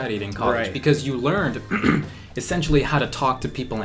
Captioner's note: clears throat